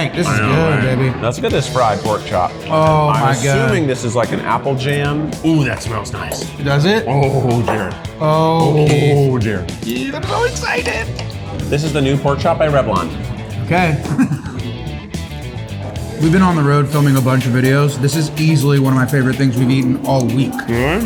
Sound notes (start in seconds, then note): 13.7 laughs; 14.7 lively upbeat music